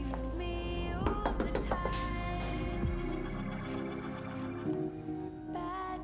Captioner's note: knocking